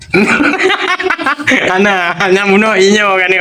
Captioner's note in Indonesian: tertawa